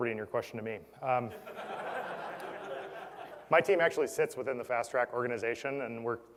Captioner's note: laugh